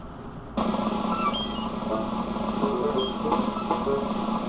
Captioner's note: squeaking